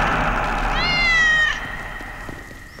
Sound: cat meowing

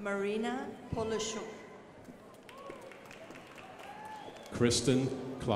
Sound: crowd applauding

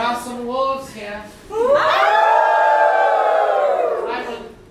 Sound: audience howling like wolves

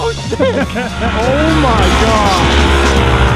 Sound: laughs

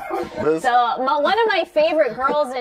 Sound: laughter

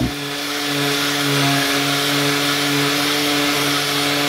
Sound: loud machine noise

